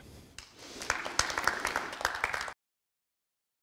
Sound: applause

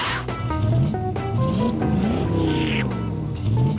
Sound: engine revving

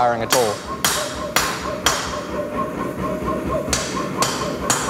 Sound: metal clanging

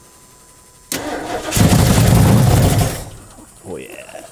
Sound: engine firing

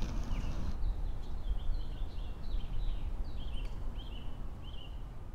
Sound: birds tweet

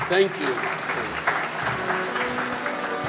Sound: audience clapping

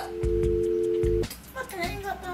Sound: engaged tone

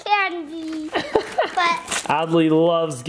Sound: laughs

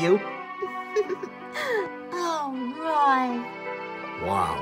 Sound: giggles

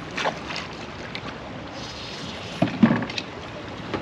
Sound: reel cranking; fish splashing; reel cranking

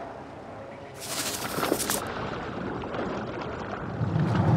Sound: water splashing

